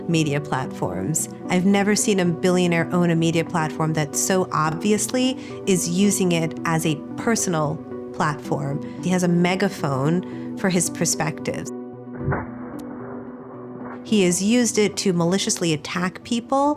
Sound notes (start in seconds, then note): 10.5 gun firing